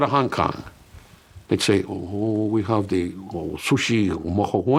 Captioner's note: speaks gibberish